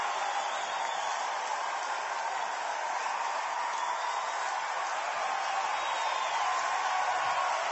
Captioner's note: cheering and applause continue